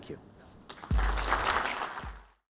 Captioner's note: attendees applauding